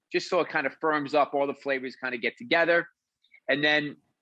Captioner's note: none